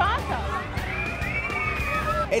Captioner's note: screaming